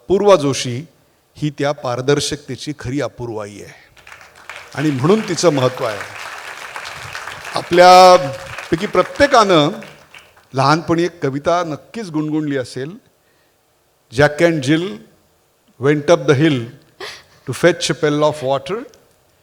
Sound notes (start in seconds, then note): 6.2 applause